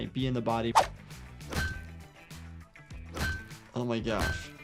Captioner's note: metal clanking